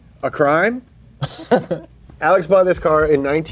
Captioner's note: laughs